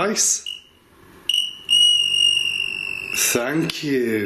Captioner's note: device ringing